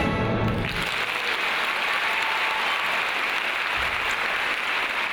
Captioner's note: audience applauds